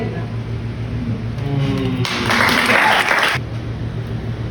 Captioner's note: poetry sounds & claps